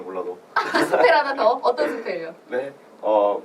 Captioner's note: laughs